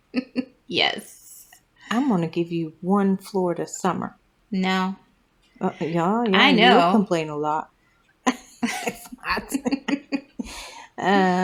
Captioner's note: laugh